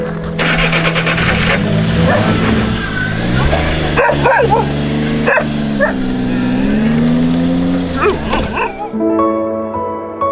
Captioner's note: running car engine